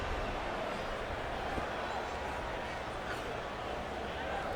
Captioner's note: crowd clamoring